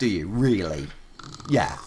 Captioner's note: snoring